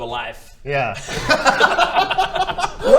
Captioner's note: giggles